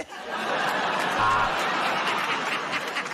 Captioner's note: buzzer buzzes; laughter